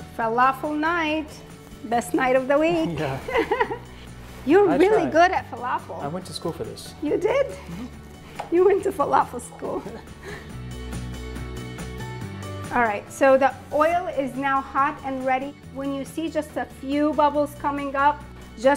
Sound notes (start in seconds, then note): 3.0 laughs; 11.3 both laughing